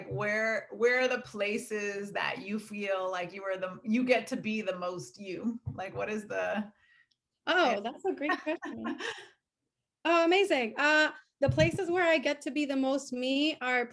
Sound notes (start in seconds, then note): 8.1 laughing